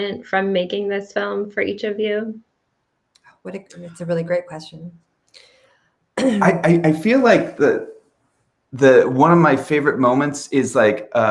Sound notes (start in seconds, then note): 6.2 clears throat